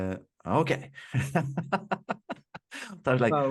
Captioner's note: laughing